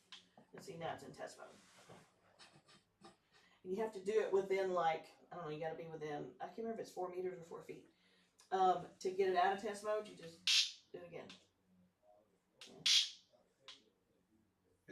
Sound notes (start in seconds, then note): 12.7 zap